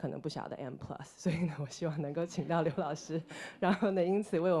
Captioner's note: audience laughter